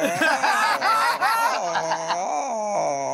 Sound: groaning; laughter

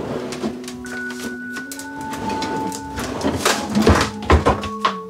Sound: drawers sliding and slamming

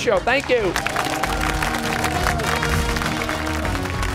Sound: cheers and applause

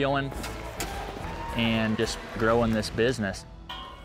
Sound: cheers

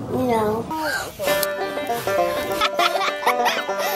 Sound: blowing; laughing

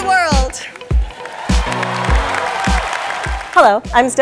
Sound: clapping

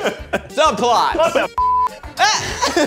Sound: beep; laughing

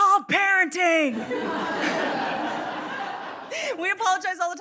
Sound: audience laughing

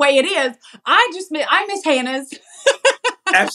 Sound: laugh

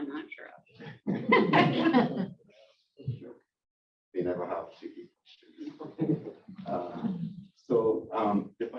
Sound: laughs

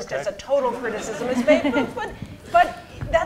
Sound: laughter

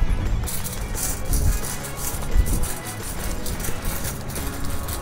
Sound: fence rattling

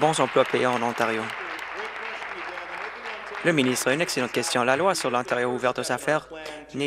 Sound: applause

